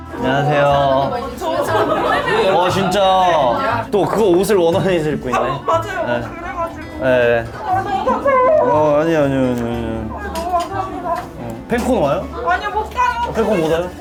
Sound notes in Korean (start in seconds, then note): 7.6 흐어엉